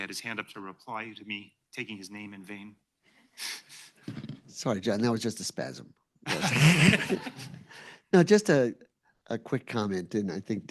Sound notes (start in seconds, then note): 6.3 laughs